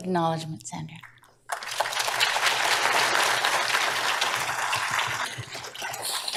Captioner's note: applause